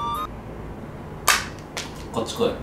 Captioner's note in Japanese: パキッ（チョコのかけらが落ちる）